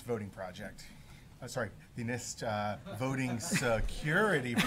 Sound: laughter

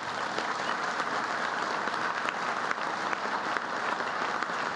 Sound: applause

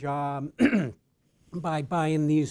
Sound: coughs

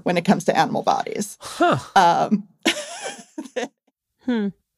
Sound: laughs

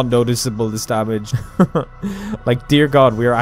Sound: chuckle; pained chuckle

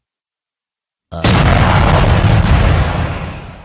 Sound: explosion

